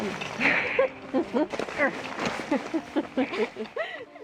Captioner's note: both laugh